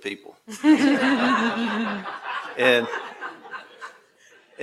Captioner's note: attendees laughing